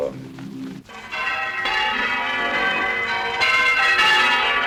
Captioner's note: bells tolling